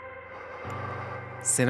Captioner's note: inhales deeply